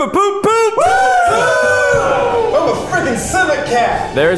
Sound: all cheering

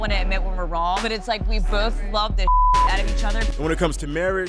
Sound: beep

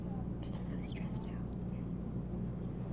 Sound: person Whispering

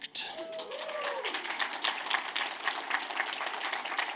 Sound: audience claps

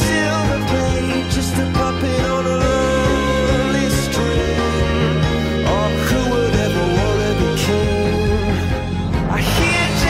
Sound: mmm, mmm

